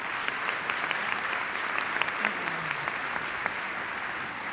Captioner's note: applause